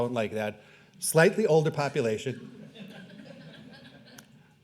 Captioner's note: laughing